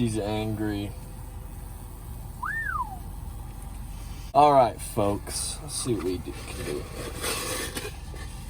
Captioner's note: whistles